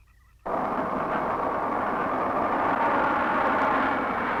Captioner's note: wind rushing